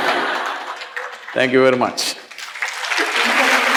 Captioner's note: applause; laughter